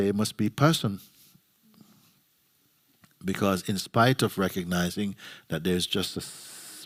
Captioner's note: none